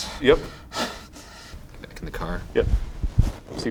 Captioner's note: breathing heavily